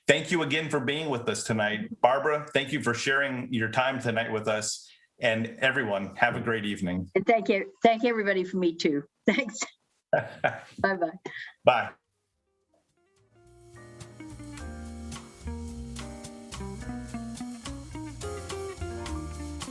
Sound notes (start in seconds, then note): 10.1 laughs; 13.8 upbeat music